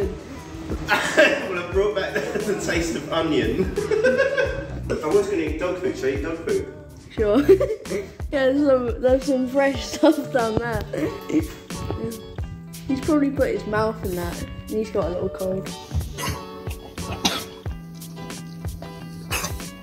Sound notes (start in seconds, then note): 10.9 dog coughing